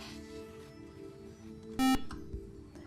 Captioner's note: buzzer